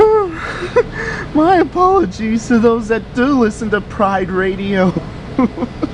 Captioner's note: laughing